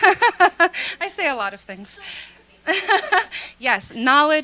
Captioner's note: laughter